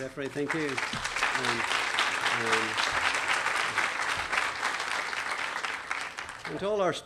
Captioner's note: clapping